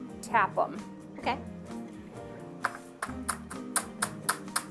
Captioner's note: tapping sounds